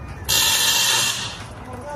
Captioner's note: electric shocking